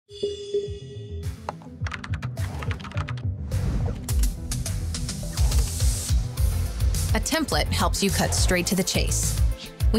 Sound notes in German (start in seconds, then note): 0.1 elektronische Musik; 1.6 Tastaturgeräusche; 4.9 ruhige Synthwave-Musik